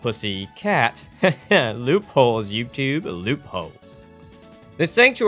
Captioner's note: laughrter